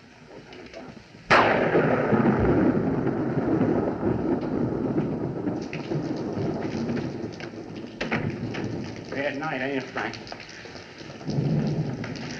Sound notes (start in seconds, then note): 5.2 rain Pouring